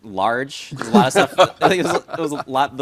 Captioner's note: laughing